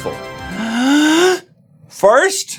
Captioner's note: deep Inhalation